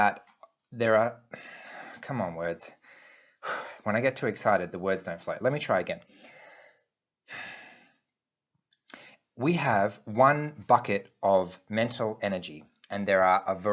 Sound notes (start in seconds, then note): 2.8 exhales; 7.3 exhales